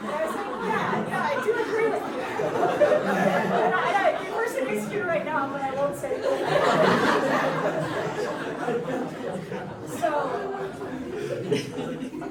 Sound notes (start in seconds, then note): 1.7 laughs; 6.2 audience laughing